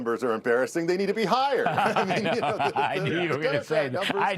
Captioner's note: laughter